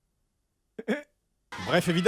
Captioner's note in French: petit rire forcé